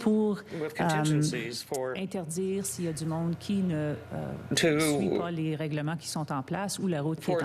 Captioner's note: speaking French